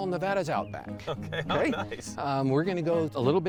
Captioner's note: laughing